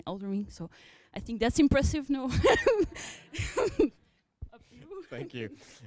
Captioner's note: chuckles